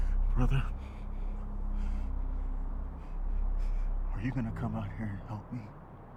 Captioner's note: gasps